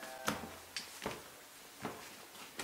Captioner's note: foot steps